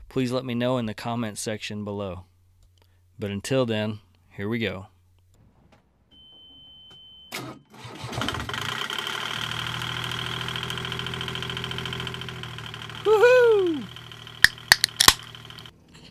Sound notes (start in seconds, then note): 7.2 diesel engine cranking...AND STARTING!; 14.4 hooo hooo! Beer opening sound